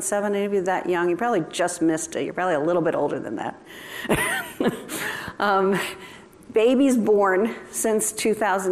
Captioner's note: laughter